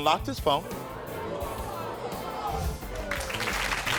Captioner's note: audience reacting; audience applauds